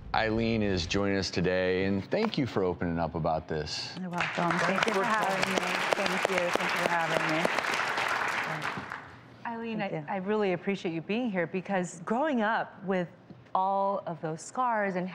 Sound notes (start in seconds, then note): 4.0 audience clapping